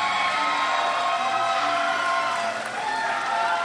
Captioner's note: crowd cheers